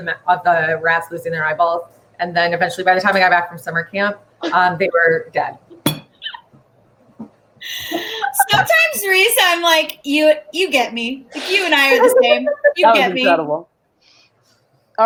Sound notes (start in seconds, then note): 7.7 laugh